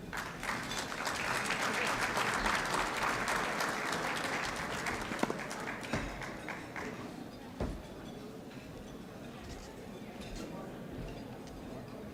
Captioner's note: applause